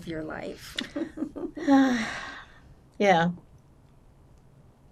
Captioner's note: laughing; sighing